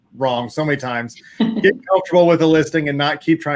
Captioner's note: laughs